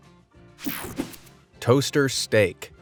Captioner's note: graphics whoosh; light, upbeat music